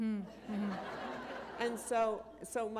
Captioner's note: laughter